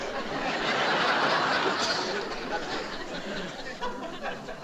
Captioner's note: audience laughing